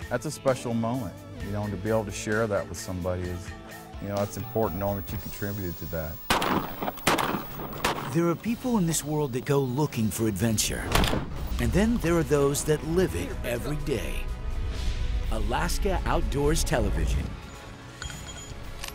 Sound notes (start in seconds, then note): 6.2 gunshots